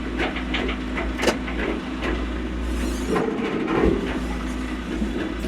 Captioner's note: wood creaking